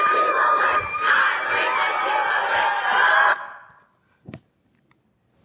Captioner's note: crowd cheering